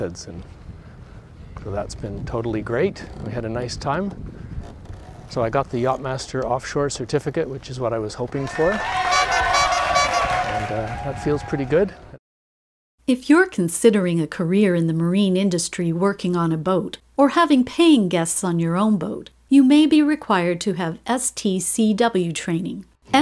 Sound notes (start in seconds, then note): 8.4 crowd cheering; 8.4 horn tooting